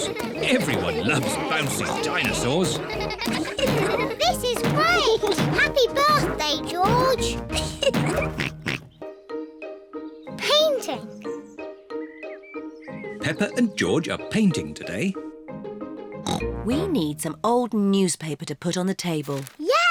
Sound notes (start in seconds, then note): 5.9 oinks; 7.3 laughs